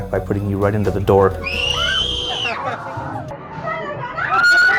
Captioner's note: screams